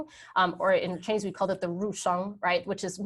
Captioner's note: speaking in a foreign language